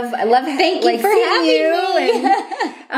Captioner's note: laughter